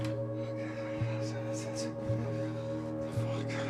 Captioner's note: dramatic music; man chattering